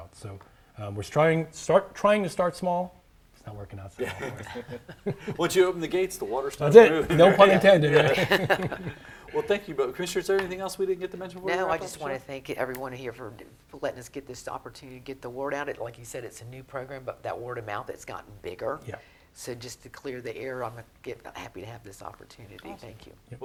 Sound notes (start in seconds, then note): 4.0 chuckling; 7.0 chuckling